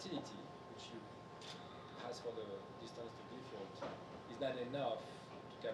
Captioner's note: speaking faintly